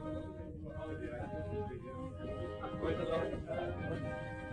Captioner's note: all chattering